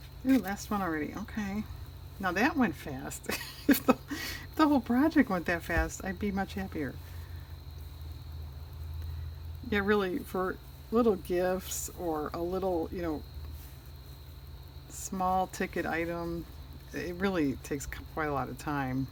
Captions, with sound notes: last one already okay that went fast (laughs), if the whole project went that fast, i'd be much happier yeah really for little gifts or a little small ticket item, it really takes quite a lot of time